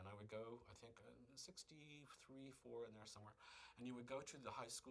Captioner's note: none